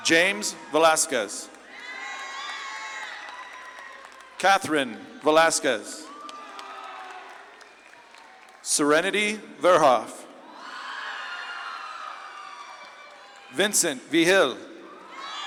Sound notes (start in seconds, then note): 1.9 audience claps and cheers; 6.4 audience claps and cheers; 10.6 audience claps and cheers